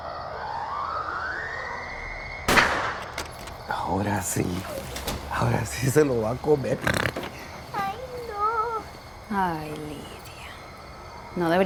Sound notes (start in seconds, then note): 2.4 gunshot; 4.6 door closes